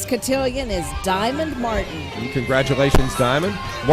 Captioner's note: cheers and applause